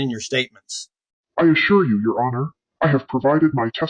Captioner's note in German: verzerrt